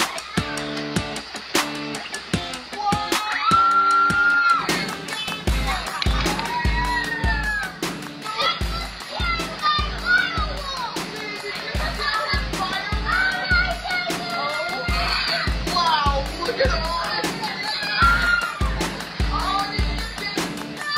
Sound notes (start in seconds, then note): 3.1 children yelling; 18.0 boys screaming